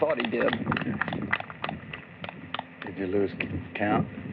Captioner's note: applause